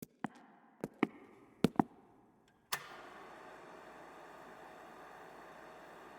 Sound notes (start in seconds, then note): 0.0 echoing footsteps; 2.7 projector clicks